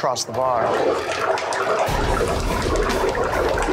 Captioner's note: bubbling